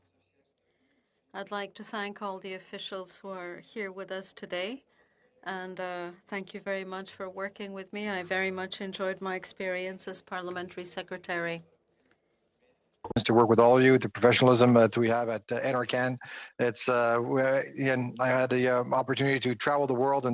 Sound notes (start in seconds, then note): 2.9 speaking French